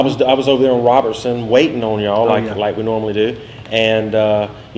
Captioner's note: none